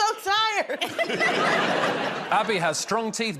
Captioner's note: laughter